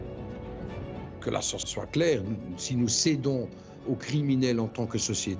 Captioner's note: French spoken audio